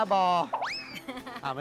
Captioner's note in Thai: เสียงหัวเราะ